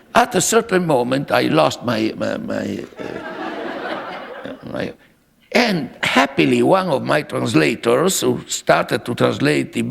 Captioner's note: laughter